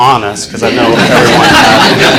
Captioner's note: class laughing